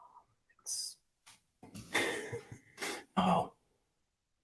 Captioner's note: laughing